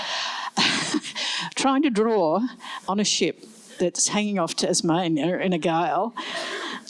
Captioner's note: laughs